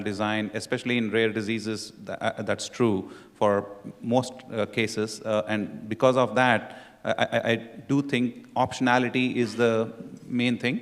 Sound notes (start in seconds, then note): none